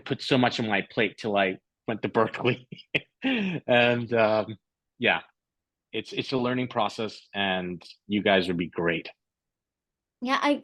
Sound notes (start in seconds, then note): 2.2 laughter